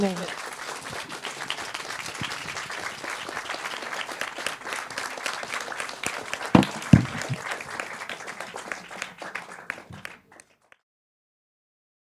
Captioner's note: applause